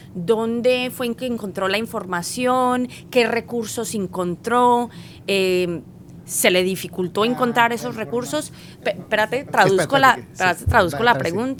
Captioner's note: speaking spanish